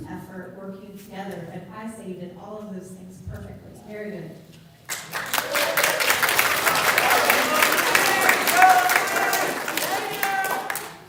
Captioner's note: applause